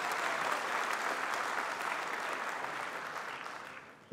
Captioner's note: applause